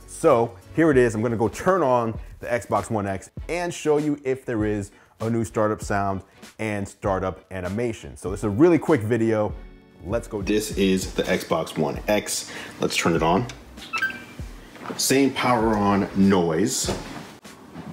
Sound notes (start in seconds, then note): 13.9 beep